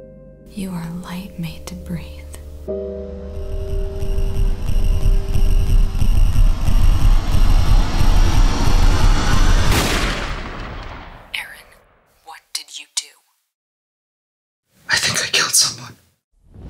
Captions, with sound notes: You are a light made to breathe *suspenseful music* *Gun fire sounds* Aaron, what did you do? I think I killed someone.